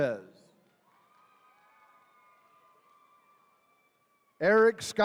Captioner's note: attendees cheering